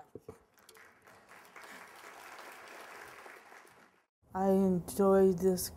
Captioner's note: applause